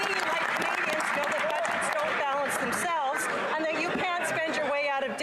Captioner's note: some Applause